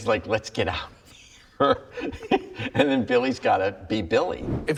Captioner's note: laughs